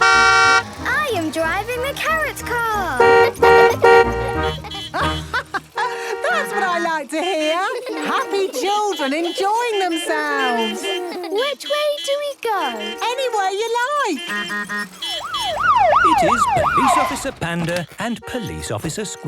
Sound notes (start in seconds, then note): 2.7 honking; 3.4 horns honking; 4.6 laughing; 10.0 laughter; 13.5 honking, siren wailing